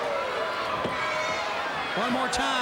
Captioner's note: crowd cheering